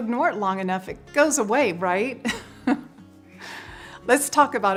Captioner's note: chuckles